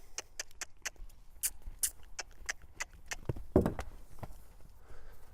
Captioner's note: clicks tongue